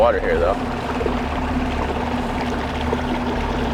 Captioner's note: water trickling